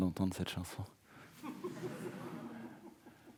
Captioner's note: audience laughing